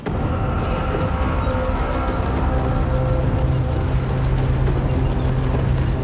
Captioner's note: tank engines rumbling